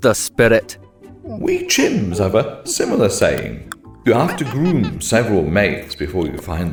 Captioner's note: ape noises